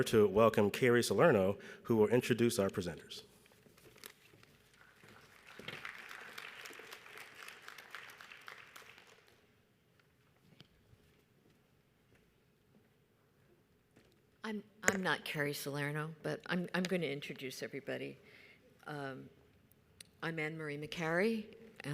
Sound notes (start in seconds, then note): 4.6 audience applauds